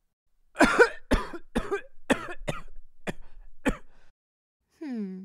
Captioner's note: The Mage violently coughs